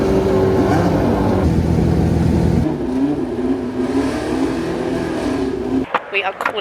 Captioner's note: car engines continue revving